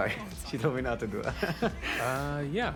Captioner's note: chuckles